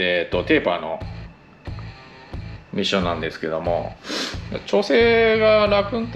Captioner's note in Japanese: 鼻息